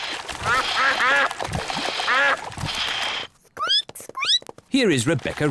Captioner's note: ducks quack; squeaks